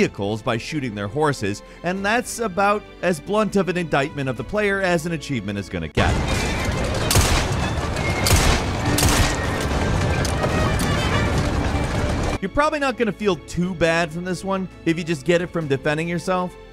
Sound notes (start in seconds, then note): 6.0 gun bangs; 7.3 dramatic suspenseful music; 8.3 gun bangs